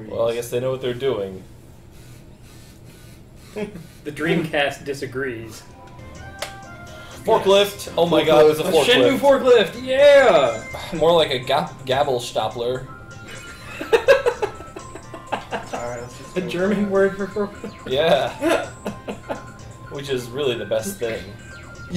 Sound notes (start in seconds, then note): 2.2 the Dreamcast's disc laser makes loud noises; 13.3 laughs